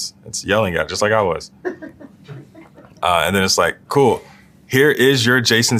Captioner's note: laugh